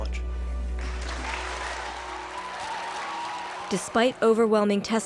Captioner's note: people clapping